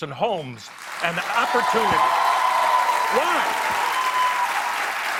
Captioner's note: cheers and applause